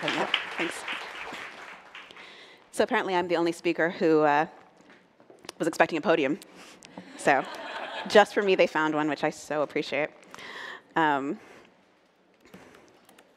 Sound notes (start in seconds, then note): 3.2 applause; 7.1 laughter